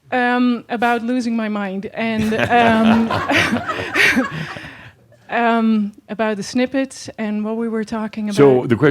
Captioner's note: laughter